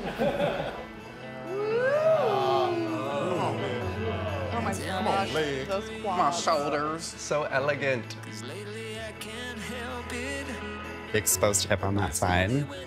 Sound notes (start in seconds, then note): 0.0 group chuckling; 1.3 group cheering